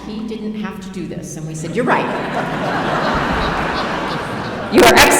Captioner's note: laughing